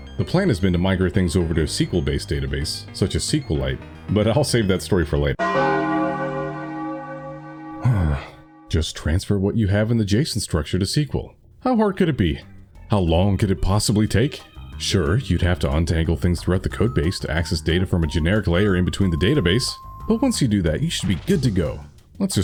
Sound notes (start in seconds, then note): 7.8 sighs; 8.7 exasperated